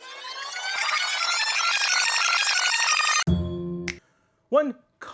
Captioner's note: rewind noise